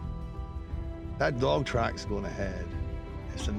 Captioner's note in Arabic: لهجة اسكتلندية